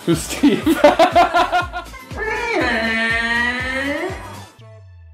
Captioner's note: weird laugh; laughing; Godzilla sound